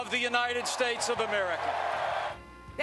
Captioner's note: cheers